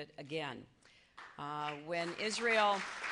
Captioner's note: applause